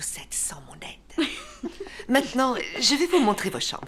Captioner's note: laughs